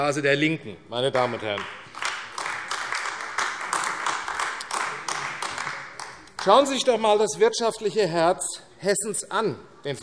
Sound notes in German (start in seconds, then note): 1.1 Beifall AfD